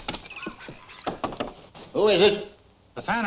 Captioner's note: knuckles tapping